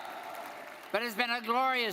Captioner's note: audience applauding